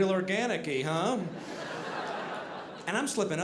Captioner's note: audience laughing